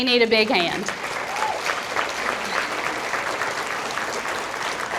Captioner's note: audience applauding